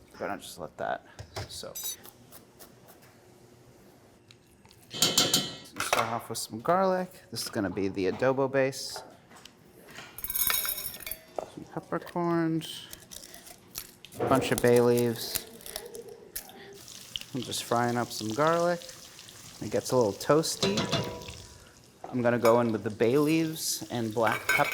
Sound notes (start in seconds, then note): 4.9 clanging; 10.2 tinkling